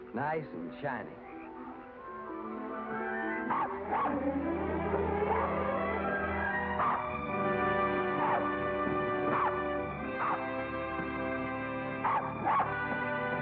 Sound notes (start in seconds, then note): 2.3 dog barks; 2.3 triumphant music